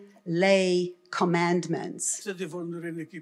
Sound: foreign language

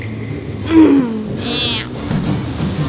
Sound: huff

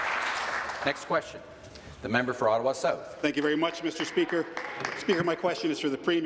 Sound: applause

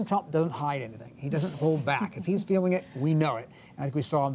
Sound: laughter

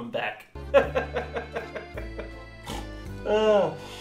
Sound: more laughter; chuckling; sighs; snorts

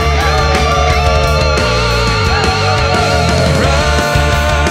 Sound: wolves howling

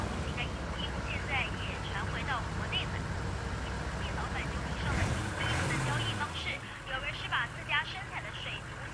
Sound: engine revs; woman speaking Chinese on radio

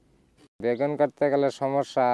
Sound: non-english speech

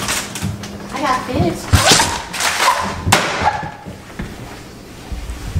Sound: woman yelping

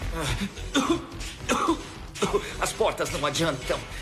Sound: coughing

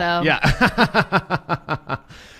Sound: laughs

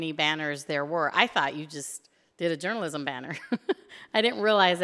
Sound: chuckles

